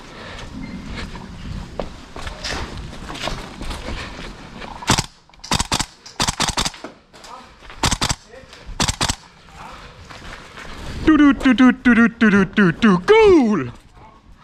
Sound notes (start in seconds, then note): 4.8 dryfire